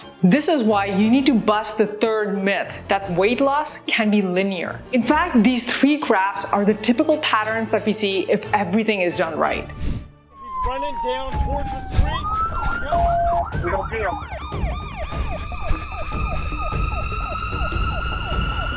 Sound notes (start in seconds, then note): 10.4 sirens blare; 15.8 dramatic music